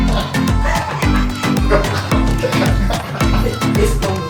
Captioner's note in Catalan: riure